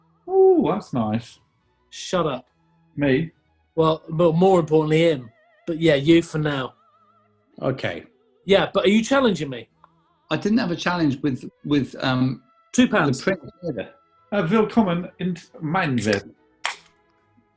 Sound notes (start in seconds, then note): 14.2 silly voice; 16.6 can opens